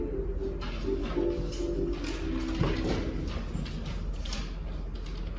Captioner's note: papers rustling